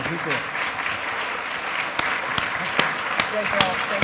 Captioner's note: audience applause